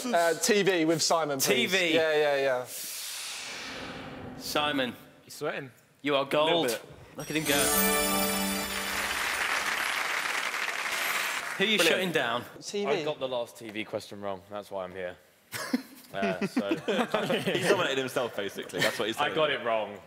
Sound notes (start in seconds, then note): 3.1 whooshing; 7.3 dramatic music; 8.3 applauding; 16.4 chuckling